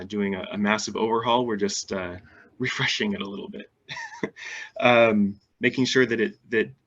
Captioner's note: laughs